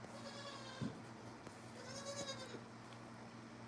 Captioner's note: goat bleating